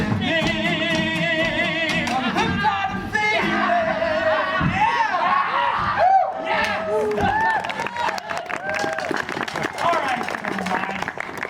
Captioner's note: cheering